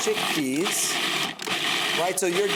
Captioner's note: blender whirring